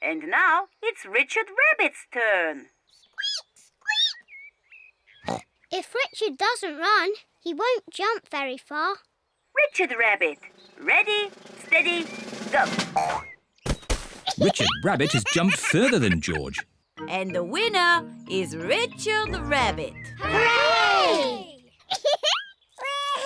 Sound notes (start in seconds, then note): 3.0 squeaks; 5.2 snorts; 21.9 laughs